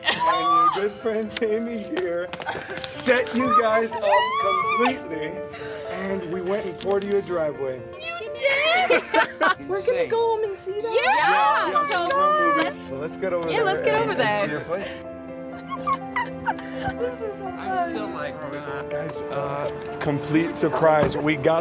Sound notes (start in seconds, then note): 8.4 laughter